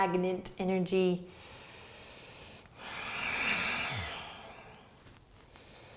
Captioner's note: breathing